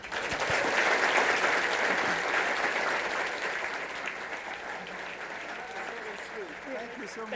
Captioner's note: applause